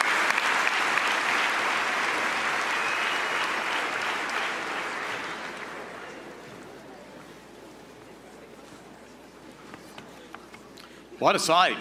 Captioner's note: laughter and applause